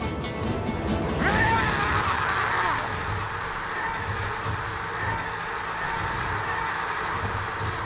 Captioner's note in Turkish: Haykırma sesi